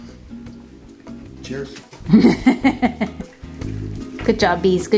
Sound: laughing

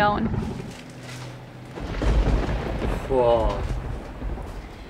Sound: lightning strikes

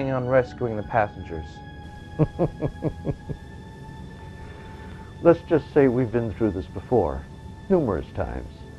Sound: laugh

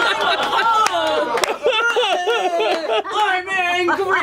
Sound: laughter; claps

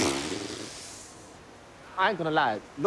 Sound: blows raspberry

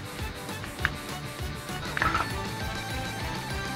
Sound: bones Cracking

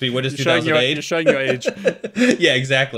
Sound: laughing

